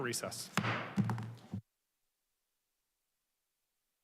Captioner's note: gavel thuds